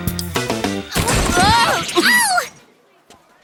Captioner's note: crashing